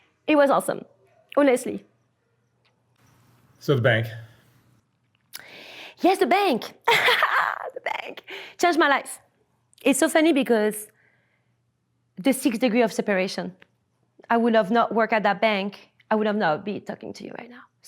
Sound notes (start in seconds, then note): 7.1 laughs